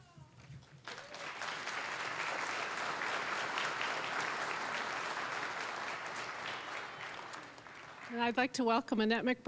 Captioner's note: applause